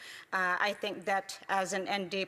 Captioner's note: speaking native language